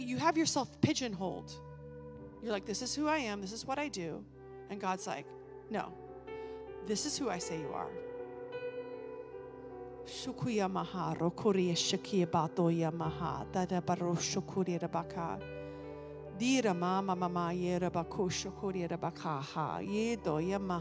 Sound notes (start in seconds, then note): 10.3 speaking in foreign language